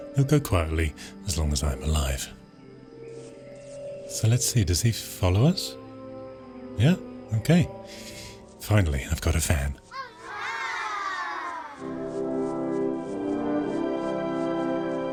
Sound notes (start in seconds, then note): 9.9 children cheering; 11.9 soft beat music